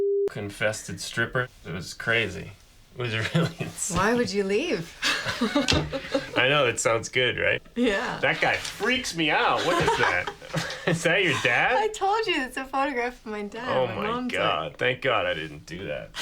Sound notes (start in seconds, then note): 3.0 laughing; 5.0 both laugh; 9.1 laughs